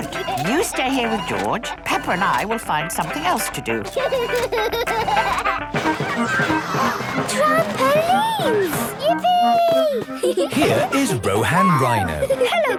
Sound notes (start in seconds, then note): 4.3 George giggles; 6.2 gasps; 10.0 giggling